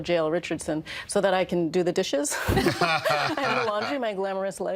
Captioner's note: all laughing